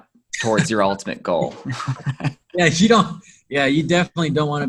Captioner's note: laughing